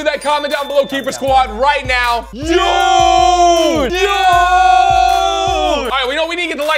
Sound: sounds of amazement

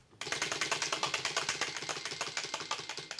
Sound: wheel clacking

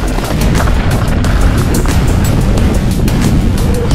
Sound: bike clatters

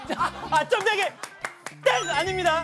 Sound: Two dots laugh out loud

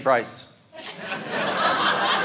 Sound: audience laughing

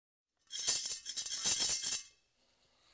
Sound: rattling

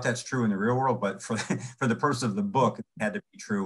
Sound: chuckles

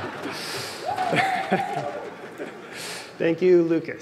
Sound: laughter

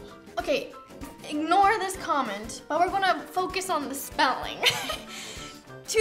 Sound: laughs

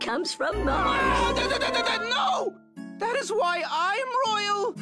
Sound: yelling

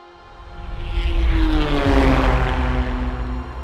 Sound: car engine rorars

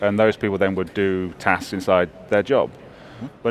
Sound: none

